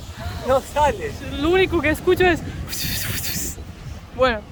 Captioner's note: suck noise